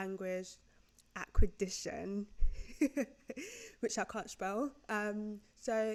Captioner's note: chuckles